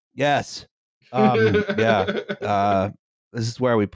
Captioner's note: laughs